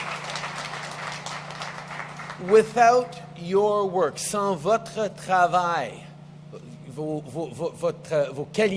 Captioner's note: applause